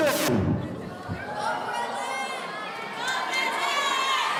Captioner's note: audience cheering